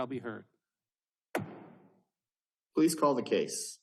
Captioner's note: gavel bangs once